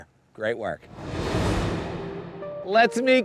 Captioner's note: graphics whooshing